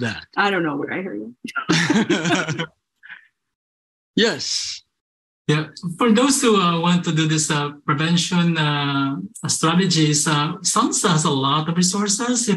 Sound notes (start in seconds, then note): 1.6 laughter